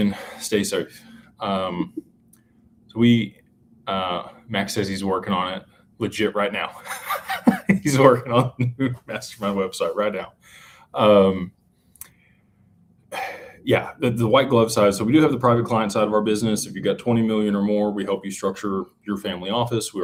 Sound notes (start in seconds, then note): 6.8 laughter